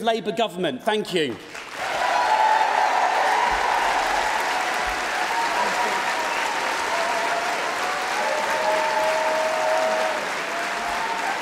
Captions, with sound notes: We need to campaign for remain in an upcoming referendum. That's the path to victory, the path to getting Jeremy Corbyn into Number Ten and the path to transformative Labour Government. Thank you. (Cheering & Applause)